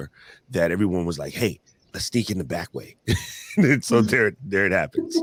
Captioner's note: laughs